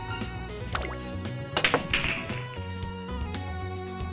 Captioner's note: sound of balls rolling